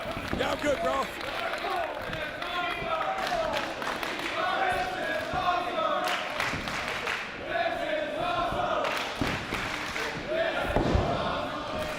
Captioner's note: applause